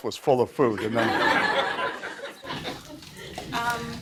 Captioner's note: laughter